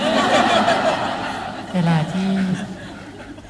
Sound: laughing

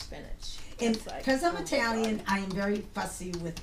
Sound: voiceover

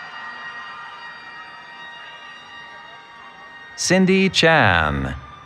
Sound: cheering

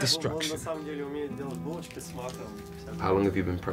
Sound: speaking in foreign language

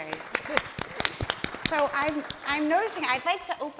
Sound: applause

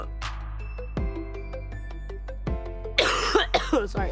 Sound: coughing

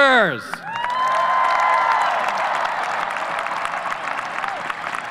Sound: audience cheers

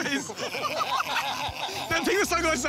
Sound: laughter

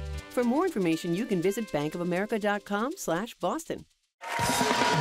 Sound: cheers and applause

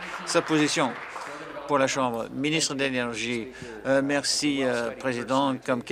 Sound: applause

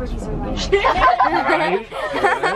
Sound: laughing

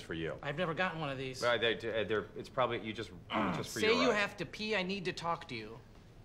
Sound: stuttering

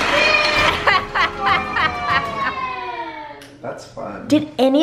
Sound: laughter

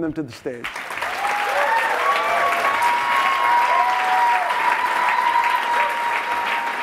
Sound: audience applauding and cheering

